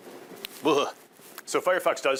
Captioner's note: shuddering